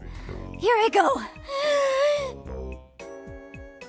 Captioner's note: inhales deeply